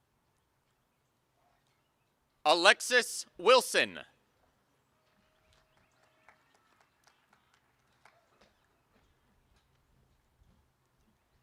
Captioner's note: applause